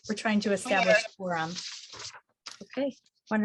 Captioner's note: faintly speaking